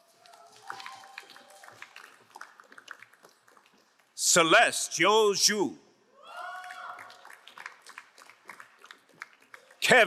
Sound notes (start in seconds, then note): 0.0 crowd applauding; 6.3 crowd cheering and applauding